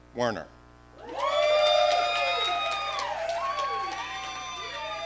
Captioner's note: audience cheering